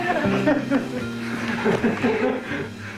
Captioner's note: laughing